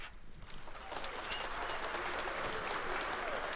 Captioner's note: applause